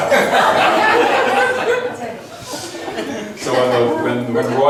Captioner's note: laughs